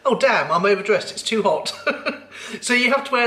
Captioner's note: laughs